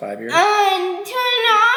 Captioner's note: vocalizing